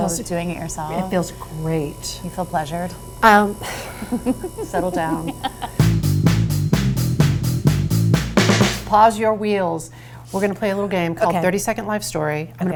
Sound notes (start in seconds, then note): 3.6 laughs; 5.8 high energy rock music